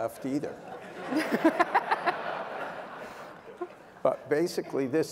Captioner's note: laughter